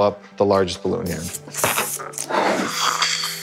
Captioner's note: air hissing; air whooshing